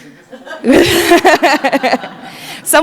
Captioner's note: laughing